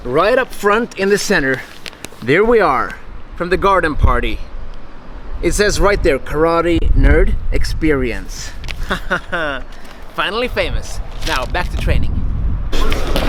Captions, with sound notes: Right up front in the center, there we are from the garden party. It says right there, Karate Nerd Experience. (laughs) Finally famous! Now back to training.